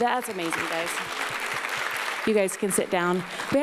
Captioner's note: applause